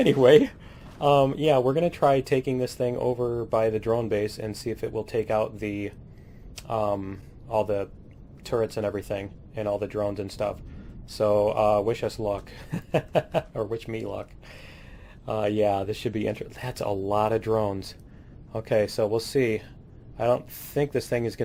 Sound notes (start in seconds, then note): 12.6 laughs